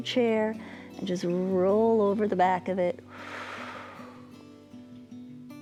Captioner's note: exhales